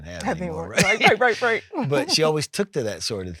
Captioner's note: laughs